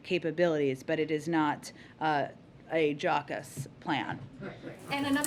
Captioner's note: laughter